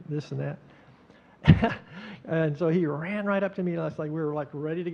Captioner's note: chuckling